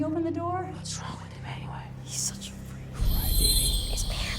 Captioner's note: kids whispering